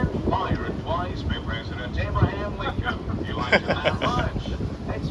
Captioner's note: laughing